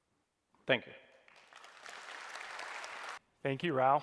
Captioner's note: applause